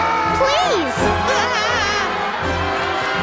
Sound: screaming

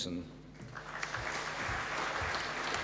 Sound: applause

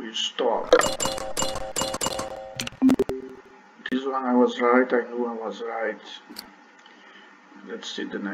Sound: click

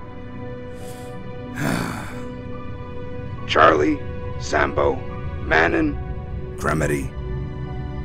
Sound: sigh

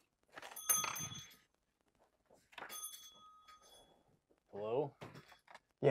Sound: door bell jingling

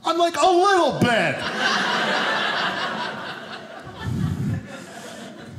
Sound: audience laughing

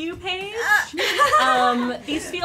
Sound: laughter

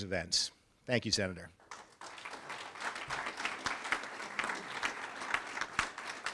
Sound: audience applauds and cheers

